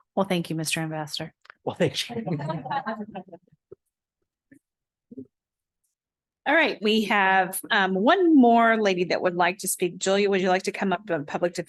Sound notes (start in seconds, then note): 2.0 laughter